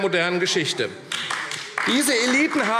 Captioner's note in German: Beifall AfD